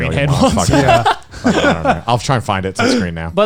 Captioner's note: laughs